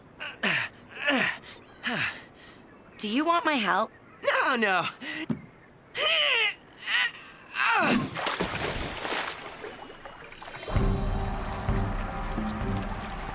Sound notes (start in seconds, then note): 0.9 grunting; 6.0 Cody Straining; 7.8 splashing